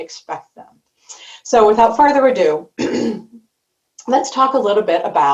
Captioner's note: clears throat